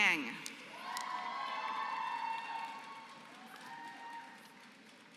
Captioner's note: applause